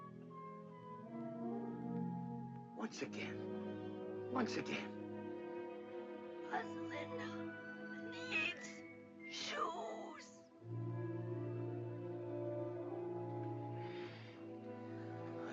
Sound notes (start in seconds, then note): 0.1 soft whimsical music; 9.4 raspy voice; 10.5 soft whimsical music